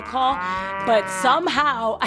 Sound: cows mooing

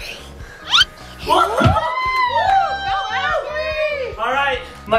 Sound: mom and dad cheering

